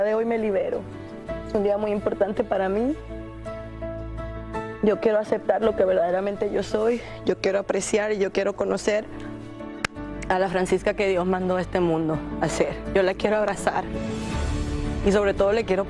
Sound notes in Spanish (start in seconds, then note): none